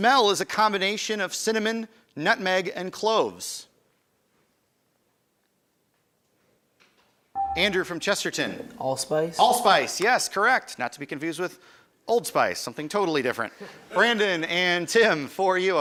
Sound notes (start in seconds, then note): 13.4 laughter